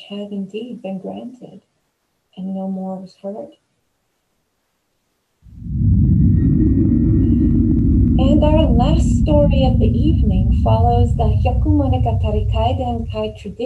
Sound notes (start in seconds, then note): 5.5 spooky transition sound